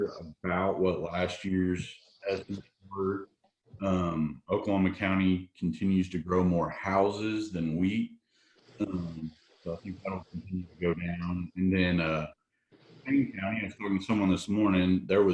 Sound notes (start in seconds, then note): 0.0 audio is choppy; 8.7 audio is choppy